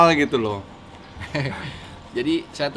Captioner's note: chuckles